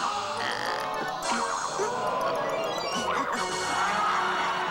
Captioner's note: audience gasps